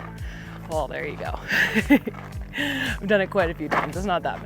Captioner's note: laughs